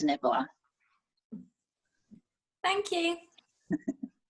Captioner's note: chuckle